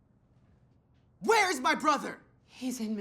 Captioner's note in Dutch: schreeuwend